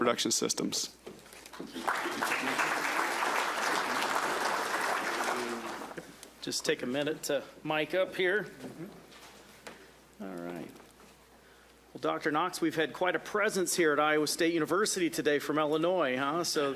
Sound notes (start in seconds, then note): 1.4 audience clapping